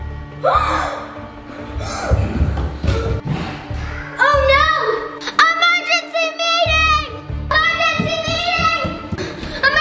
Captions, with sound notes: (child gasping) Oh no! Emergency meeting! Emergency meeting!